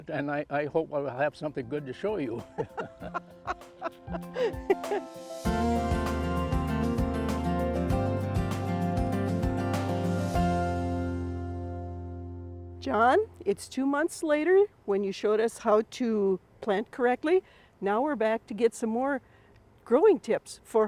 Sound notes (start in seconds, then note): 4.7 laughing; 9.8 gentle music